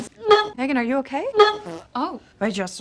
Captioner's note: retches; RETCHlNG AND FARTlNG